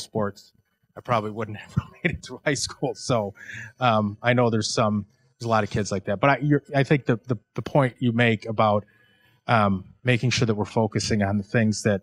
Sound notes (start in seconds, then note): 3.1 laughing